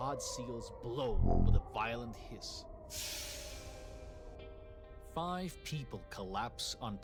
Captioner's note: hissing